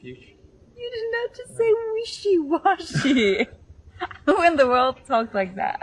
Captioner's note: laughs